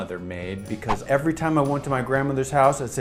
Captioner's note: whoosh